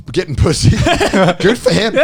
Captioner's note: laughing